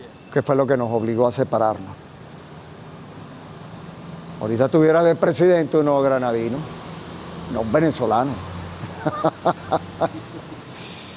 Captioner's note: laughs